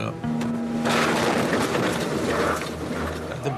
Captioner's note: debris thundering